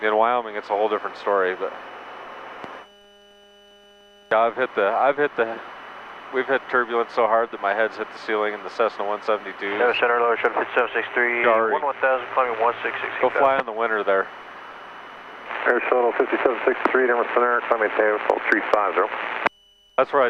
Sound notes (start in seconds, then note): 10.2 man On Radio; 15.9 man On Radio